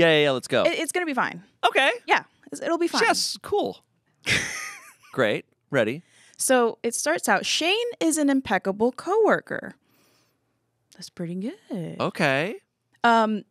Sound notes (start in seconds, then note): 4.2 laughs